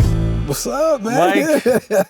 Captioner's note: laughs